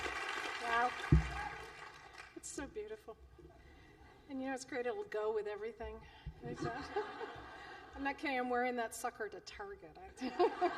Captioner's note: laughter